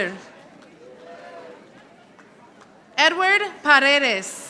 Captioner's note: audience applauding